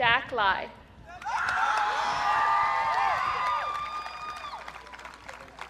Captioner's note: audience cheering